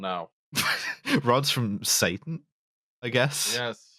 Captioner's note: laughs